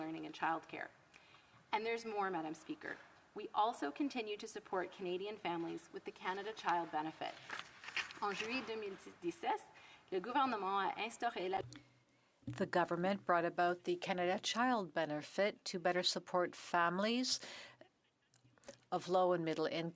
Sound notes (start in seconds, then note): 14.4 speaking French